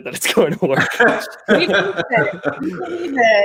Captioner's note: laughing